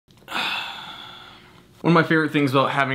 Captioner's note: sighing